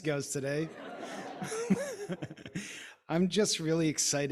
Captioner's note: audience laughing